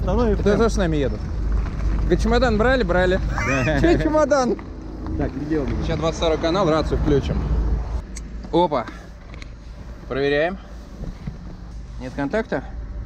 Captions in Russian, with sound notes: Ребята тоже с нами едут? Чемодан брали? Брали! (смеются) Чей чемодан? Так, идем. Сейчас, 22-й канал... Рацию включим. Опа! Проверяем. Нет контакта?